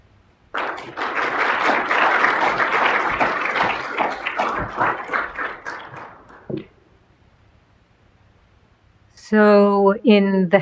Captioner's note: applause